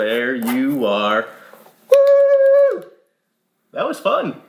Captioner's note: claps